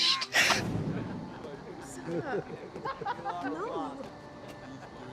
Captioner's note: people chattering